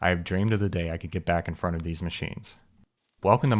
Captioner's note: none